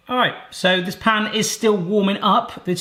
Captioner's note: none